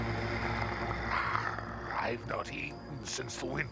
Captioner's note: snarling